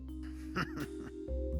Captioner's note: evil laugh